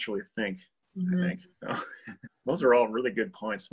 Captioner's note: laughs